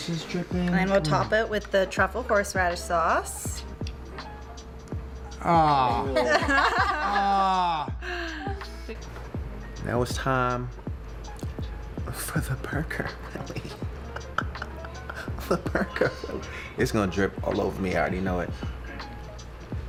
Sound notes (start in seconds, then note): 5.7 laughing; 14.0 chuckling